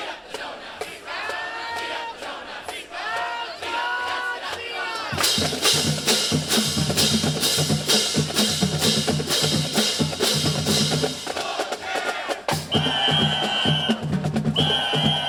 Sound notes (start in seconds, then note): 4.8 drum beating; 5.0 cymbals crashing; 11.7 band cheering; 14.5 whistle blowing